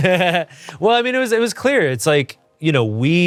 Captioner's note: Ian laughs